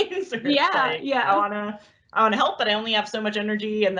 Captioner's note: laughs